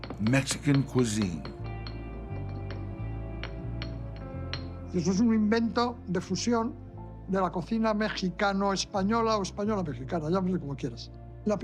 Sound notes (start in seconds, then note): 1.6 stone clinking; 5.2 in Spanish